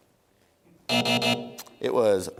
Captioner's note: buzzer